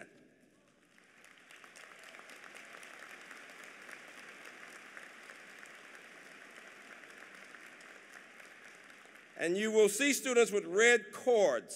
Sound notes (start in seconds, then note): 0.4 applause